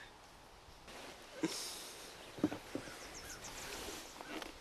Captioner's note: sighs